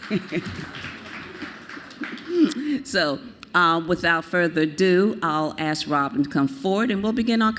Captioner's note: applause